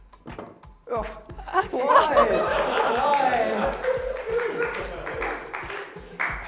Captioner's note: laughter and applause